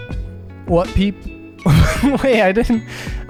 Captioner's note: laughs